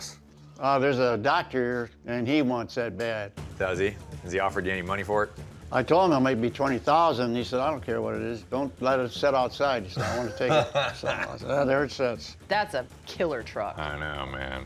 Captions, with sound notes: Uh, there's a doctor, and he wants that bad. Does he? Has he offered you any money for it? I told him maybe $20,000. And he said, "I don't care what it is. Don't let it set outside -'cause I wanna take it." -[Mike laughs] So there it sits. -That's a killer truck. -I know, man.